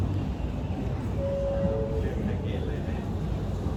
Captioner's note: train alert chimes